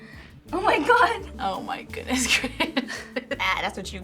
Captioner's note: chuckles